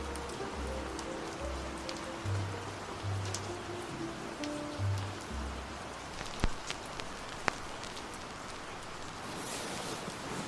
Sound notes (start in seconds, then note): 6.0 record fuzz